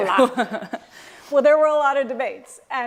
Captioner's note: laughter